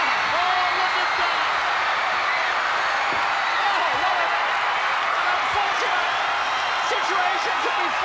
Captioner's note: applause